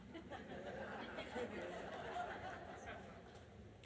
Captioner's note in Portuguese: risos da plateia